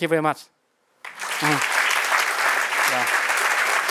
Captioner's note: applause